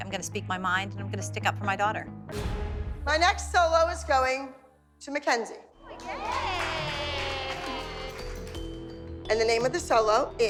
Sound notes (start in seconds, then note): 5.8 cheering